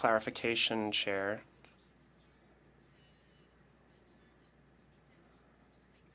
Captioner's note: speaking French